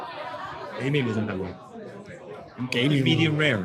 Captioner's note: speaking in foreign language